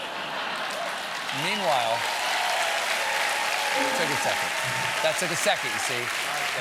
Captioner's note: laughter; cheers and applause